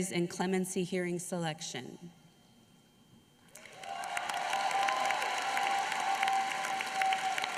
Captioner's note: applause